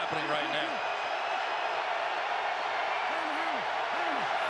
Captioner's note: cheering